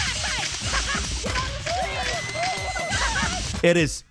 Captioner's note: people cheering and screaming